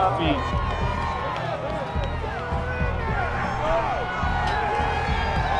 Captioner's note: crowd yelling, cheering